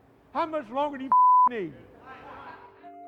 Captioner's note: beep